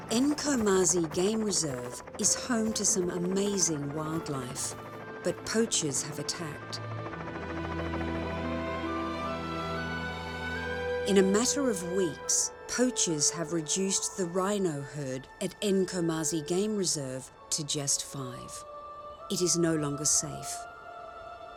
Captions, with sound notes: Nkomazi Game Reserve is home to some amazing wildlife, but poachers have attacked. (helicopter blades whirring) (gentle haunting music continues) In a matter of weeks, poachers have reduced the rhino herd at Nkomazi Game Reserve to just five. It is no longer safe.